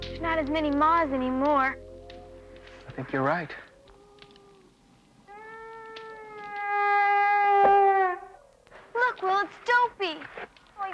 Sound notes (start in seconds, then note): 0.0 somber acoustic guitar music; 5.2 Dopey howls